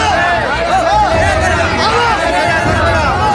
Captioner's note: commotion continues